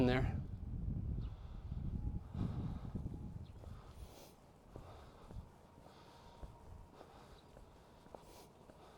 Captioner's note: breathing heavily